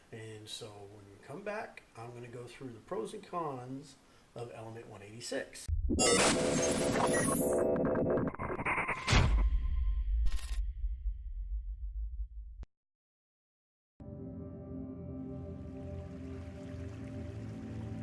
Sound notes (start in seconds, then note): 5.7 scientific sound effects; 14.1 dramatic orchestral music